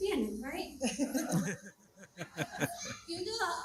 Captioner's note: crowd laughing